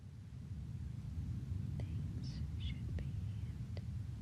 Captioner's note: whispering